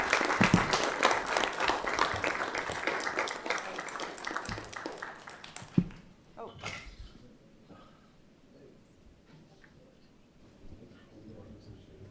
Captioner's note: applause